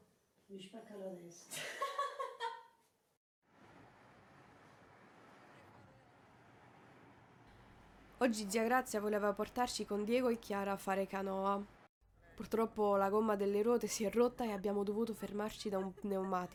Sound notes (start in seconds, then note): 1.4 laugh